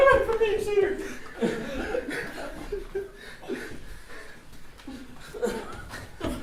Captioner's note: laughter